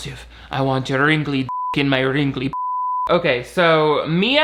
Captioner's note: beep